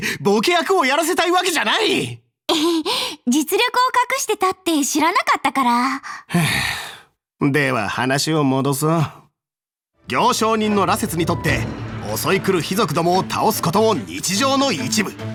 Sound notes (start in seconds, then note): 6.0 sigh